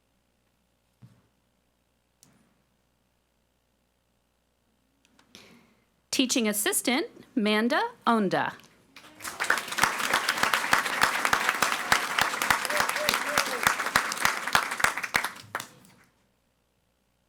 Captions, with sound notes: Teaching Assistant, Manda Onda. (audience applauding)